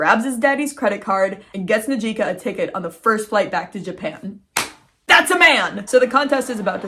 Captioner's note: claps